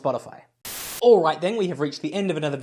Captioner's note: Static